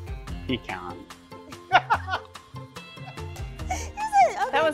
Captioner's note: laughing